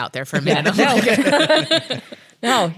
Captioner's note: laughs